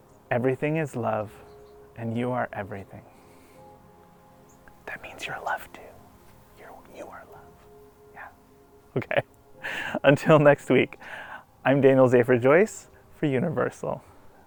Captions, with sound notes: everything is love and you are everything. *whispers* That means you’re love too. You are love. Yeah. Okay. Until next week. I'm Daniel Zafer-Joyce for Universoul.